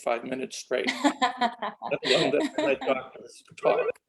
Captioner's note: laughs